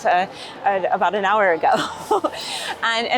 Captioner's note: laughs